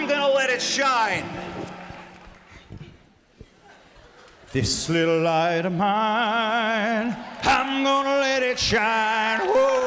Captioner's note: laughter